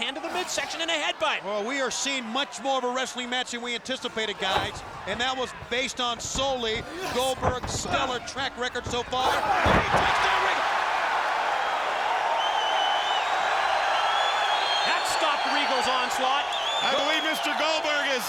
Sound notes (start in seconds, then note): 9.6 bodies thudding; 11.1 audience cheering